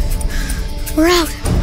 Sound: rapid drumbeat, music; panting

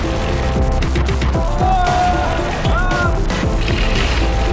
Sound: shouts excitedly

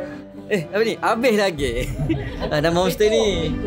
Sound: laugh

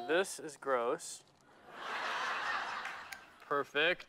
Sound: laughter

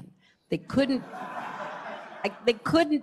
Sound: laughter

